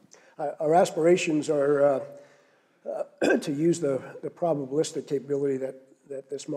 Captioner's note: cough